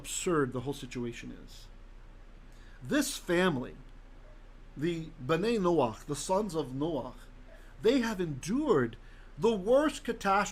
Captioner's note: Hebrew